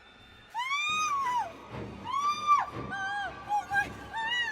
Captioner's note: Julie screams